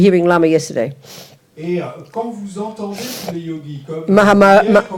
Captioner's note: French